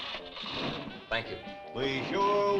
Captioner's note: engine rumbling